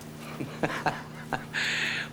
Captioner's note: chuckles